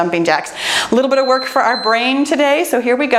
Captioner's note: timer beeps